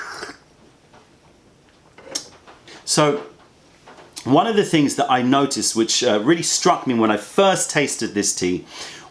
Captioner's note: sips tea